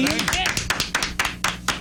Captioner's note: audience Clapping